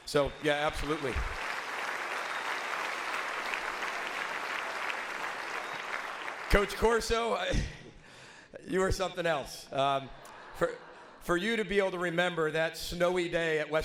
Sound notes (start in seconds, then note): 0.0 audience applauds; 10.1 audience laughs